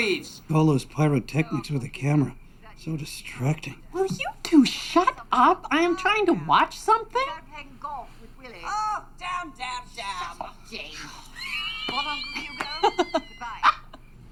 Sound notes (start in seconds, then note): 11.3 laughing